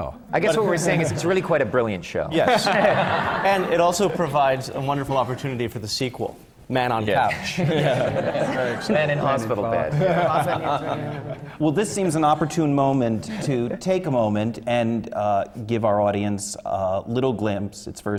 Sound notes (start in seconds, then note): 0.0 laughter; 2.4 laughter; 7.2 laughter